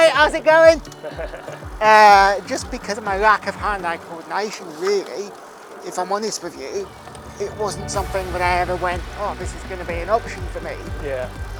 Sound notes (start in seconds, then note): 0.0 laughs